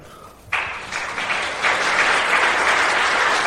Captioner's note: applause